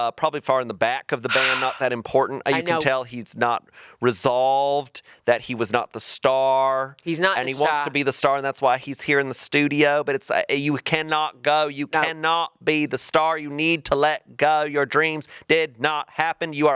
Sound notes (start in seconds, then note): 1.2 sighing